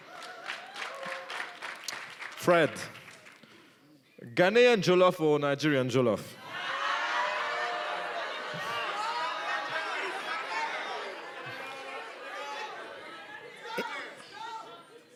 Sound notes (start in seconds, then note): 0.0 applause; 6.4 shouting, laughing in audience